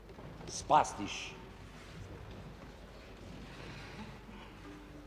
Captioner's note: speaking foreign language